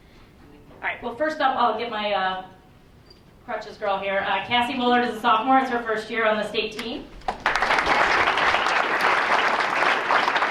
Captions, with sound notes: All right, well first up I'll get my crutches girl here. Cassie Willard is a sophomore. It's her first year on the state team. (applause)